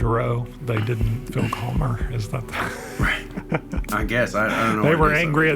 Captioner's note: laughs